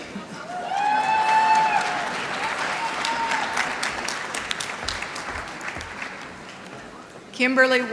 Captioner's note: applause